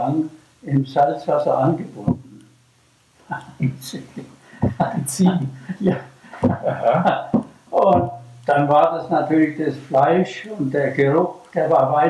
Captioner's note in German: He laughs